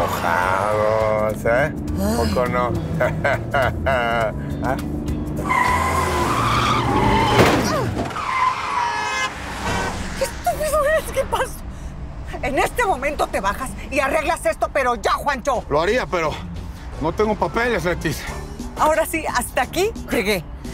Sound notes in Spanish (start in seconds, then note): 2.8 Ríe; 7.8 Cláxones